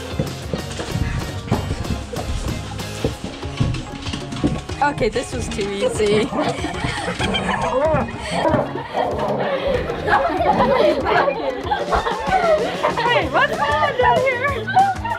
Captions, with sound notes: - Okay this was too easy. (giggling) - Wait, what's going on down here?